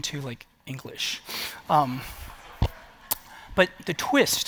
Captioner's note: laughter